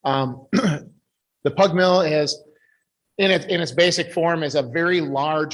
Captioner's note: clears throat